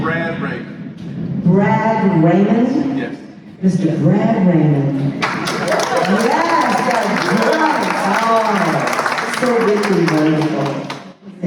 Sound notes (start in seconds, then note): 5.1 applause